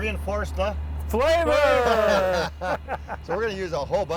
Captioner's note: laughs